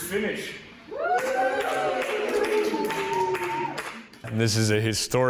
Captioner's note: crowd cheers